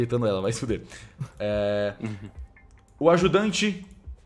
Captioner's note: chuckles